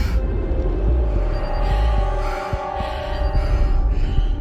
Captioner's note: alarm noises